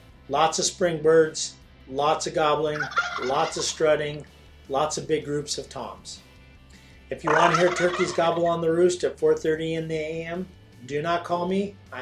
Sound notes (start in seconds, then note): 2.6 turkey gobbles